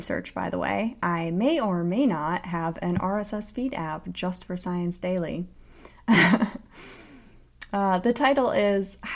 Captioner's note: laughter